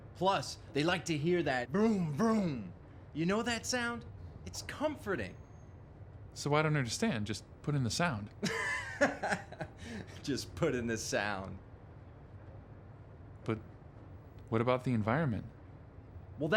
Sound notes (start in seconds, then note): 8.4 laughs